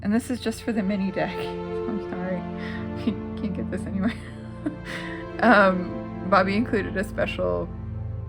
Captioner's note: laugh